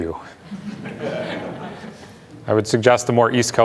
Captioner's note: laughter